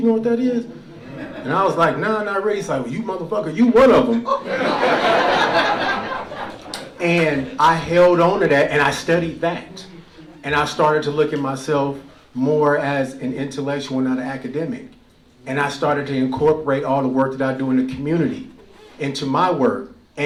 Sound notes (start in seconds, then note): 4.2 laughter